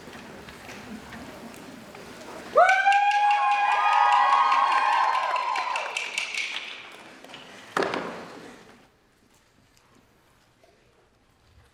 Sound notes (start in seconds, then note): 2.6 applause